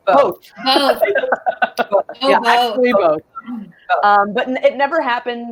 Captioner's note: laughs